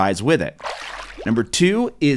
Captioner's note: water splashes